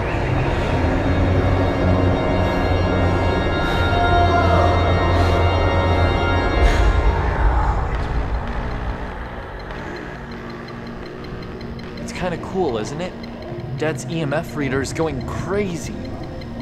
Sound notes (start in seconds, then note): 0.3 demonic rumbling; 7.7 electrical whirring and beeping